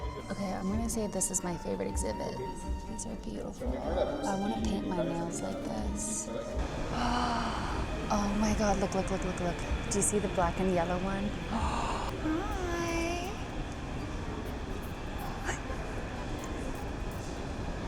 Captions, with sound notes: Okay, I'm gonna say this is my favorite exhibit. These are beautiful. I wanna paint my nails like this. (gasps) Oh my God. Look, look, look, look, look. Do you see the black and yellow one? (gasps) Hi.